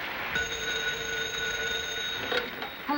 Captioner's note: phone ringing